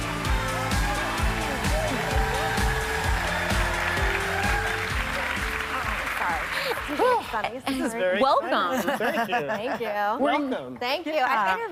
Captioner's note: applause